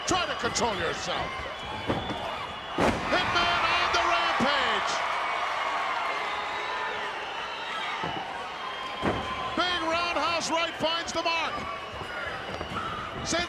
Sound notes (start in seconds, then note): 4.6 crowd cheering